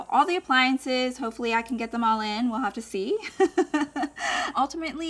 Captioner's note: laughs